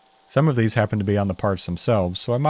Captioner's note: drill whirring